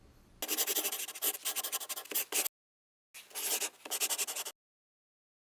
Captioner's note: scribbling